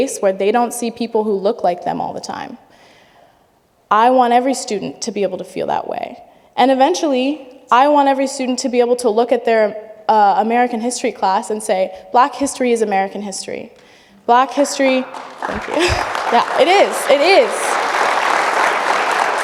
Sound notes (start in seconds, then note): 14.6 audience applauding